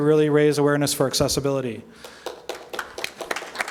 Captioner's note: applause